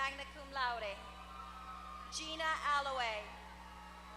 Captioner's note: applause